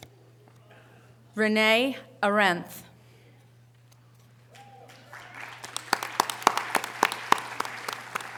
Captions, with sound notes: Renee Arendt. (audience applause)